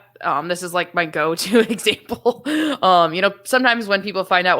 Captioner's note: laughs